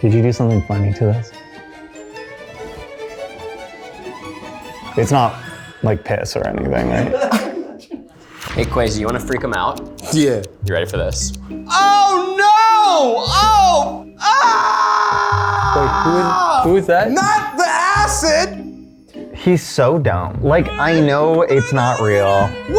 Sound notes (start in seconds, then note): 1.7 light music; 6.9 people laughing; 8.4 dramatic music; 14.2 screaming